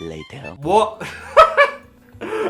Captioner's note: laughs